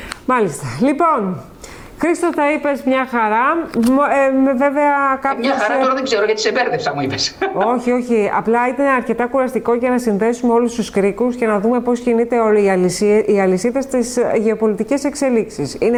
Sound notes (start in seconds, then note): 7.0 laughter